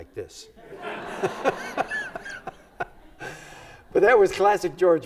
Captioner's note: everybody laughs